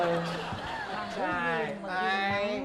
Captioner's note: laughing